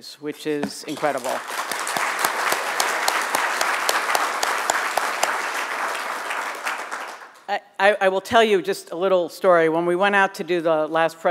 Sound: applause

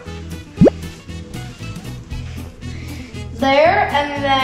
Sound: bloop noise

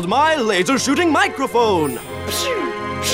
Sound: imitates firing a laser

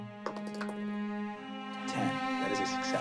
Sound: dice rolling

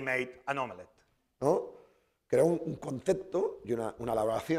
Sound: speaking spanish

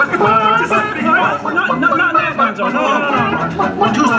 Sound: audience laughter; chicken clucks

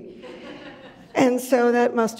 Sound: audience chuckles

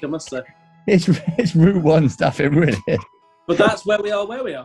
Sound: laughing

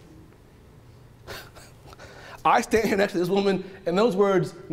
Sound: laughing

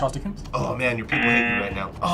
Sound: buzzer blares

